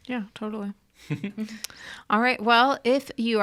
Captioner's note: chuckles